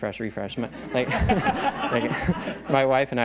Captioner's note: laughter